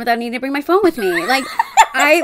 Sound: cackling

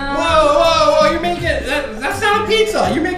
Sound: voiceover

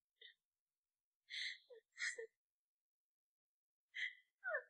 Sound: sobbing

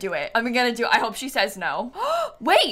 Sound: gasps

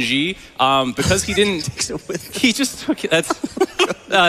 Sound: coach laughs

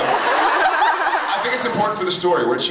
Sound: laughs

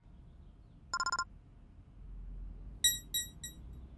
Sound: ringing; beeping

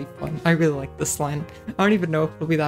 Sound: giggle

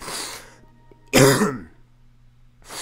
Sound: coughing

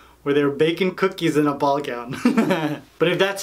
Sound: laughs

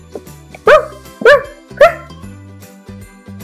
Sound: barking

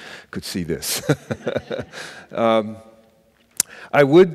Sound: laughing

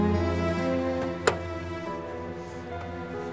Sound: tense music; car door opens

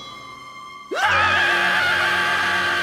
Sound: screaming

